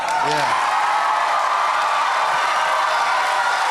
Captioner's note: audience Cheers